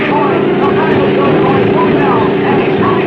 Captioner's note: car revving